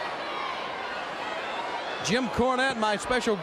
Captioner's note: crowd chatter